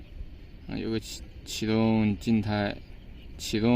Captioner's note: start record static